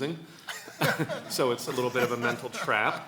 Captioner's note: laughs